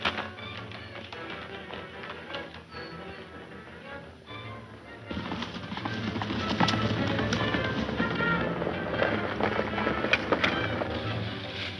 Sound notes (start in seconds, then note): 0.2 dramatic music; 5.3 horses galloping